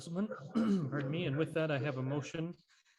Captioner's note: clears throat